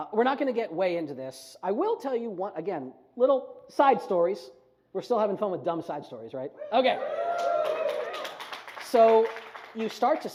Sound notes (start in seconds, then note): 6.9 audience whoops; 7.3 audience applauds